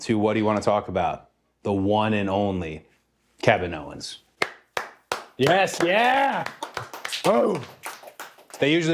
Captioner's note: applause